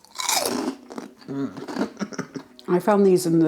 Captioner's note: crunch